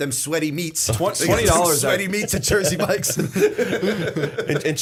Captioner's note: laughter